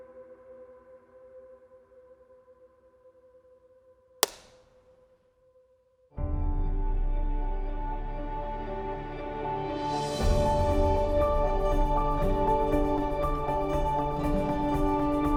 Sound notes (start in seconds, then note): 4.2 clapboard clacks; 6.5 soft dramatic music